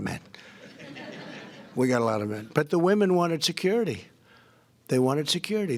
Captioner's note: laughter